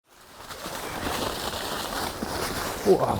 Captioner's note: leaves rustling